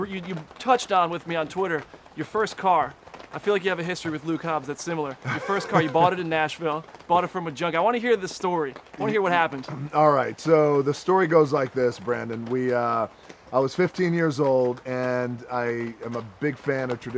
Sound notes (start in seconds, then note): 5.2 laughs